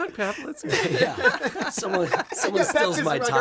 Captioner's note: laughter